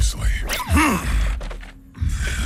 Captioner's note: grunts